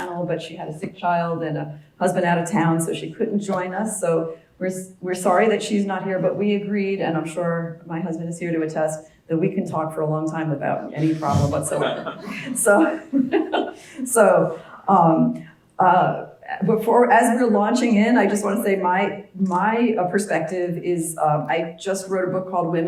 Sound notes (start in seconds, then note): 10.8 laugh